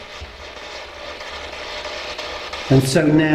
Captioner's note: static buzzing